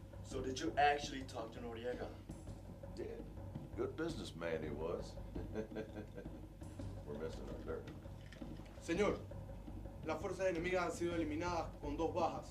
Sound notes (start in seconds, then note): 5.3 laughing